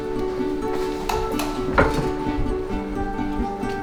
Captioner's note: doorbell